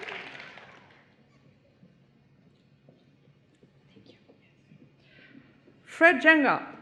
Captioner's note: applause